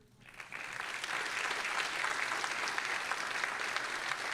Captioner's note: all applauding